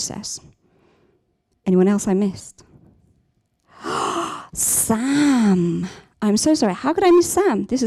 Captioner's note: gasps